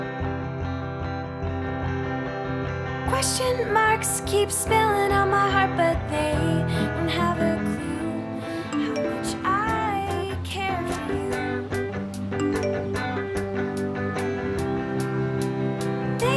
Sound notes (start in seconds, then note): 0.3 slow music; 8.7 phone notification; 12.4 phone notification